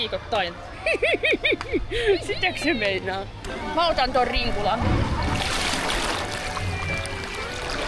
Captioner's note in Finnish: naurua